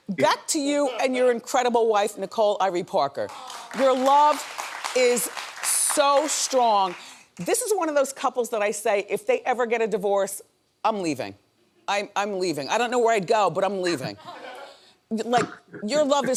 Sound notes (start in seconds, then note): 3.3 audience applauding